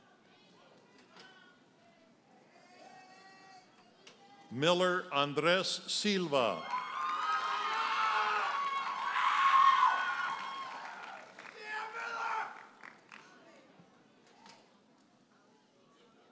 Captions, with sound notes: Miller Andres Silva. (audience cheers and applauds) (audience member hollers)